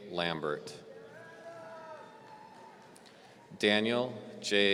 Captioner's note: audience cheering